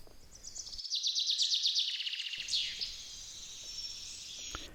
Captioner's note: birds singing